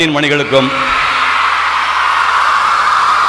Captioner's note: deafening applause